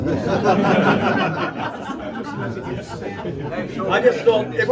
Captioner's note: crowd laughs